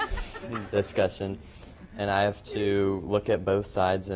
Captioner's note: laughter